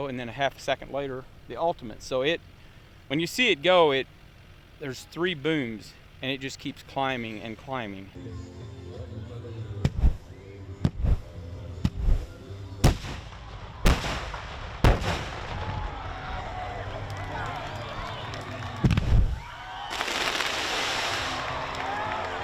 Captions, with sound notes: and then a half a second later the Ultimate. So when you see it go, there's three booms and it just keeps climbing and climbing. [fireworks]